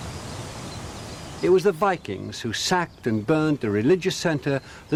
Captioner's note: birds chirping